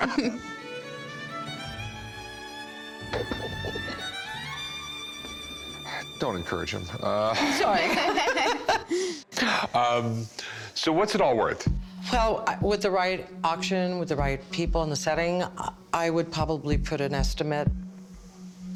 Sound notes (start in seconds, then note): 0.0 sweeping orchestral music; 7.3 laughter